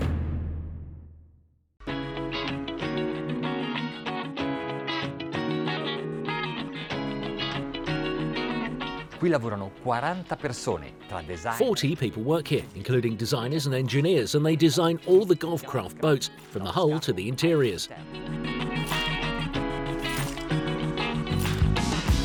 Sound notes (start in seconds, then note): 9.6 speaking in foreign language; 19.5 upbeat music